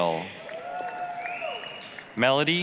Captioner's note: applause, cheering